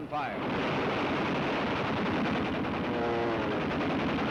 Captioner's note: machine gun shots